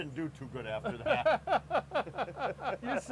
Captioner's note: laughing